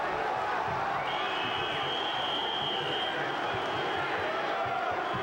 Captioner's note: whistle blowing